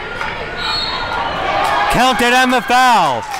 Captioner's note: whistle blows